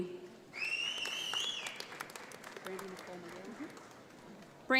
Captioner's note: audience applauds